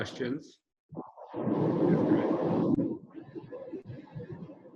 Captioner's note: murmuring